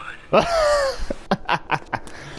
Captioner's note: Laughing at Starkweather's funny quote